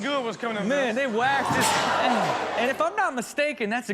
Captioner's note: audience oohs